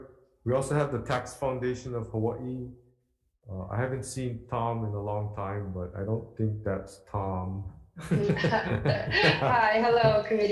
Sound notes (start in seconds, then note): 8.0 laugh